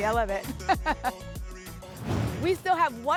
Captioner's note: laughter